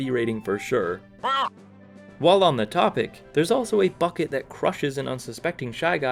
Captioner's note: shy guy noise